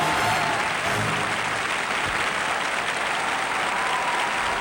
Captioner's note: cheering and applause